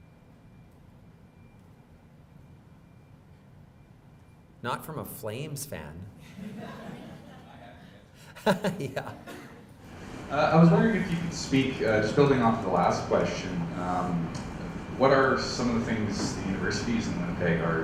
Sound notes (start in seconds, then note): 6.2 laughing